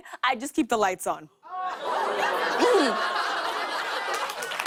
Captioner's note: audience oohs; applause